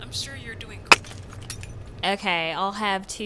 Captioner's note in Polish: dźwięk rozwalanych słuchawek